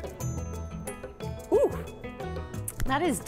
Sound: exclaiming

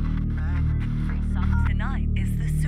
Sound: radio static

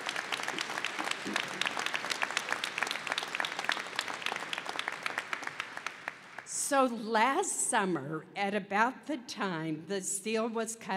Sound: applause

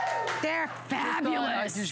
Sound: cheering

